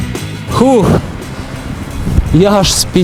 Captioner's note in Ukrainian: Видихає